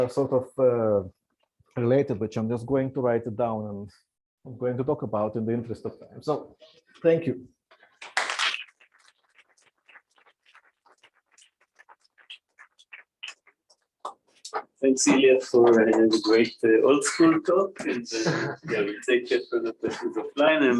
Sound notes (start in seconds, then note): 8.0 applause; 17.8 laughter